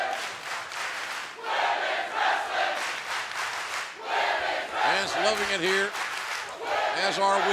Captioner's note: fans chanting